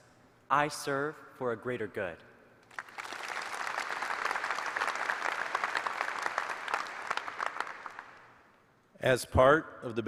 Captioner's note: applause